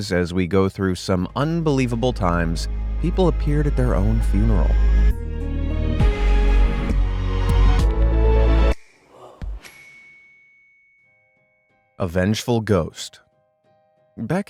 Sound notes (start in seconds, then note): 5.3 upbeat music; 9.6 graphic chiming